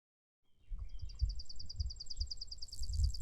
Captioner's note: birds chirping